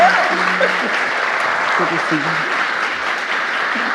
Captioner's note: audience applauding